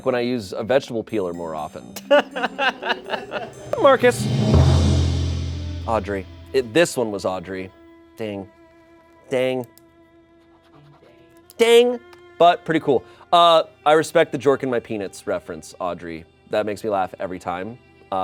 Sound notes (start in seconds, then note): 2.3 crew laughing; 4.8 bright music